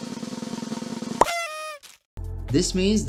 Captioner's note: drums; pop-up sound and party horn